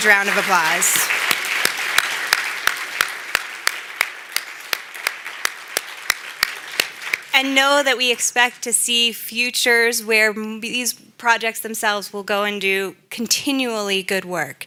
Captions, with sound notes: APPLAUSE. (APPLAUSE) AND KNOW THAT WE EXPECT TO SEE FUTURES WHERE THESE PROJECTS, THEMSELVES, WILL GO AND DO